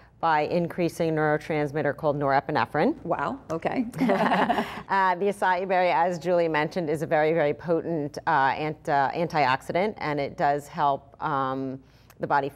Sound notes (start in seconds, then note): 3.9 laughing together